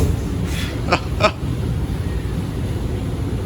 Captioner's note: laughs